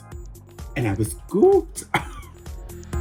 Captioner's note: laugh